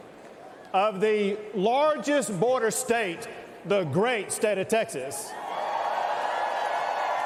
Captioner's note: cheers and applause